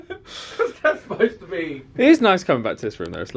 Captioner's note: laughs